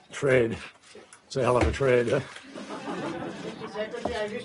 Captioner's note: laughter